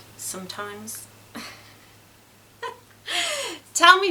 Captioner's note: giggles